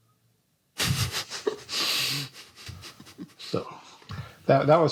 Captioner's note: laughs